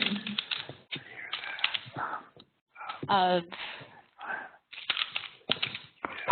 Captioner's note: background noises of heavy breathing and tapping